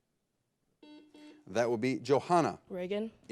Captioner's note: buzzer blares